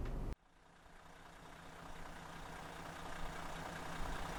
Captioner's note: engine sound